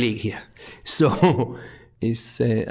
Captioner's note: chuckling